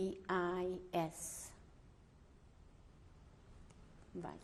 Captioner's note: pauses for 3 seconds